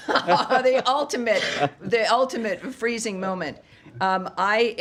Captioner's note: laughter